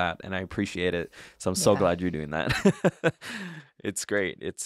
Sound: laughs

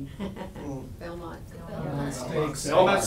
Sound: laughs

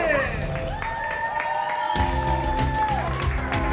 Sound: loud cheering; triumphant music

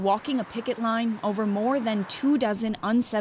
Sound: horns

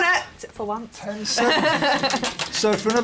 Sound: laughs

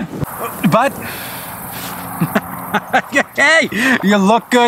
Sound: laughs

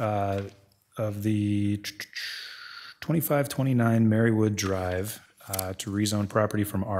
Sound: tutting

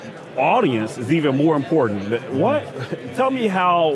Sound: chuckles

